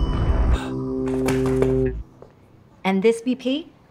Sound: bell ringing; patron exhaling

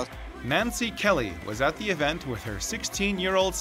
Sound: voiceover

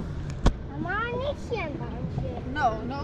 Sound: speaking Dutch

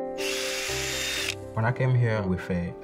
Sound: whirring sound

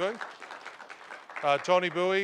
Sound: applause

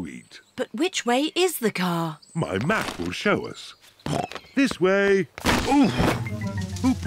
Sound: snorts

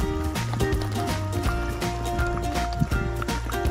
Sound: lapping water sounds

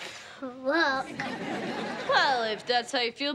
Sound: audience laughing

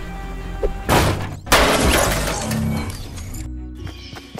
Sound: loud crash

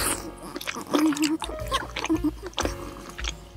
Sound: chewing

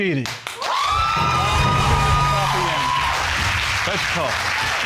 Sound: audience cheering

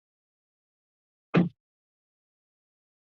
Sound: silence; thud; silence

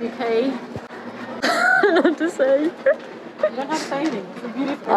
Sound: laughs

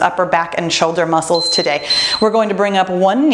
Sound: timer beeps

